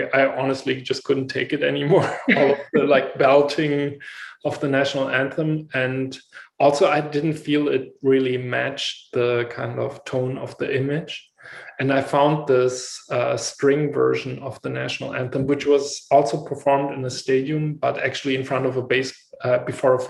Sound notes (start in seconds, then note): 1.7 laugh